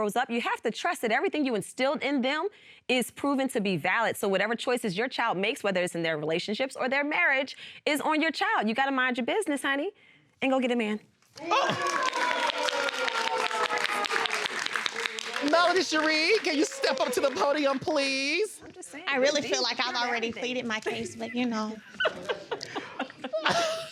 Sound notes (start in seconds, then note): 11.4 audience exclaiming; 11.4 applauding